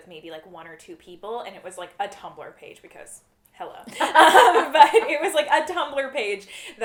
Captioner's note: laughter